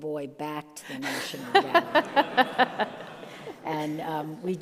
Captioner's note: all laugh